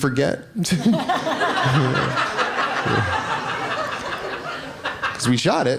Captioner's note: laughing